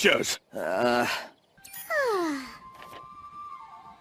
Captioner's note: groans; sighs contently